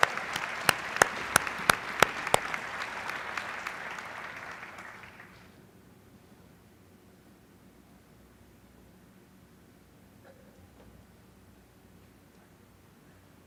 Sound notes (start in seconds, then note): 2.4 applause